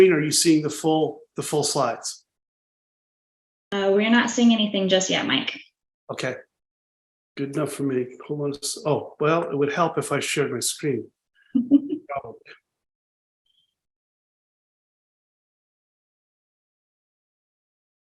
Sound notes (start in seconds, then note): 11.5 laughing